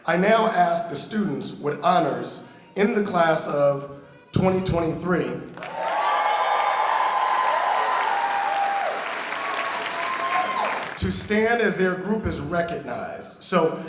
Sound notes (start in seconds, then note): 5.5 audience cheering